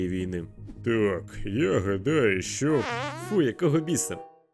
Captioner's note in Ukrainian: пук